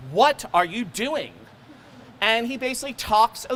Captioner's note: crowd laughing